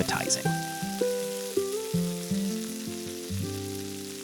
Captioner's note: sizzling